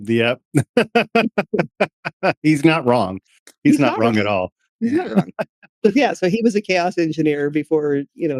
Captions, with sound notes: Yep. (Laughing) He's not wrong. He's not wrong at all. He's not wrong. Yeah, so he was a chaos engineer before, you